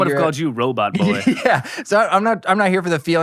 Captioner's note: laughs